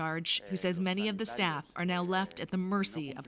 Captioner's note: speaking Foreign Language